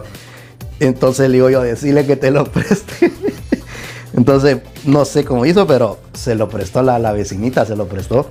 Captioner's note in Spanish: risas